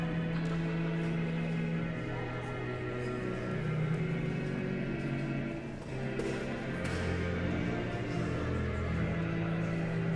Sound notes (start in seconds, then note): 0.0 guest continue chattering; 0.0 solemn music continues